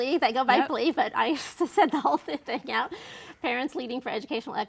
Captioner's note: laughs